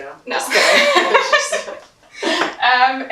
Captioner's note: laughs